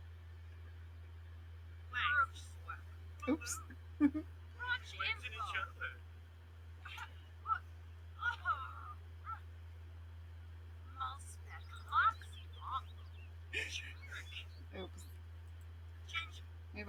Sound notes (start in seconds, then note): 0.6 sims speaking simlish